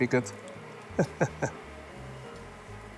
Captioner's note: chuckles